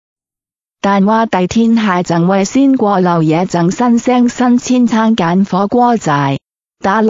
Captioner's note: Cantonese